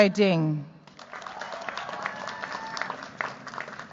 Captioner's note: cheers, applause